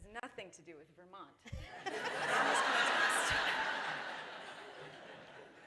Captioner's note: laughter